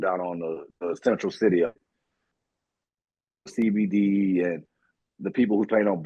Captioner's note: audio out